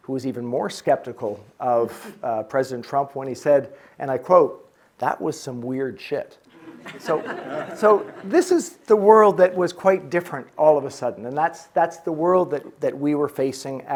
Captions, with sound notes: who was even more skeptical of President Trump when he said, and I quote, "that was some weird shit." (audience chuckling) So this is the world that was quite different all of a sudden. And that's the world that we were facing